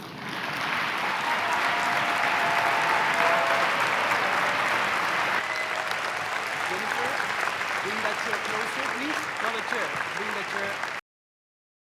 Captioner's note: applause